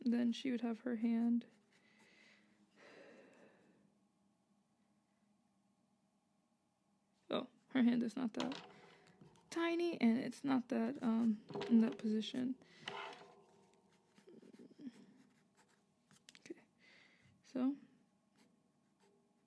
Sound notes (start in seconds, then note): 2.7 sighs as I try to keep perspective and composition in mind; 14.3 sketch noises